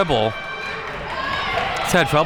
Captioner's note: audience cheering